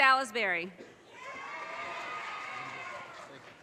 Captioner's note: audience cheers and applause